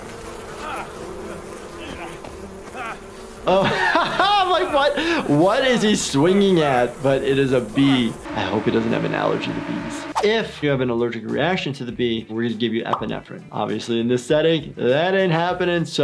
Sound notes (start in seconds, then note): 0.1 nonsensical shouting; 3.3 laughs; 8.3 buzzing